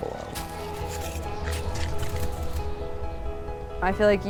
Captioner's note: wind whistling and snow scraping